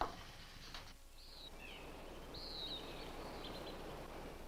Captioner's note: birds chirp